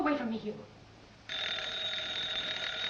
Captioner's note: phone rings